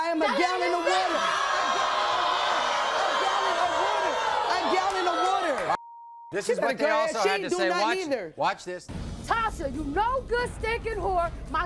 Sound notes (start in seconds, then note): 0.6 audience groans; 5.8 beep